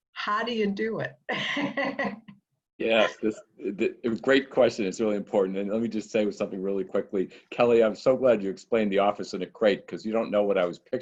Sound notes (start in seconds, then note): 2.9 laugh